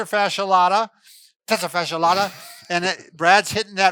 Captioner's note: laughing